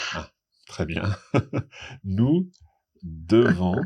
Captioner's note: laughing